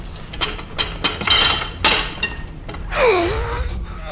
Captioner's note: knife clattering; man groaning